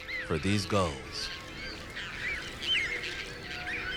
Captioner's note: birds cawing